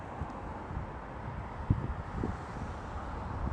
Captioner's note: wind blowing